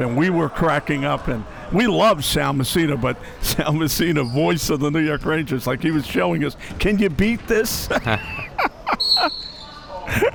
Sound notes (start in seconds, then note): 7.8 laughing